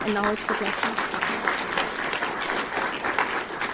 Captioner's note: applause